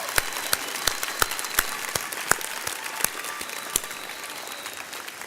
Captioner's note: audience cheers